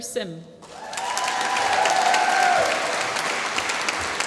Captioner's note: applause